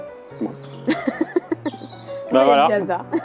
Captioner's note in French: rires